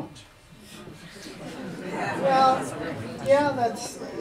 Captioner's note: audience Mummers